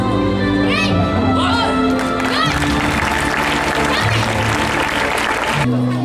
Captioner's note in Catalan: Aplaudiments